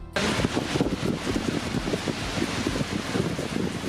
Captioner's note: heavy rain noise